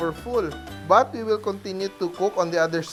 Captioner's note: sizzle